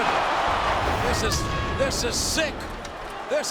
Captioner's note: crowd cheering; air whooshing